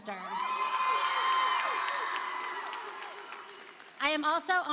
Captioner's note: applause and cheering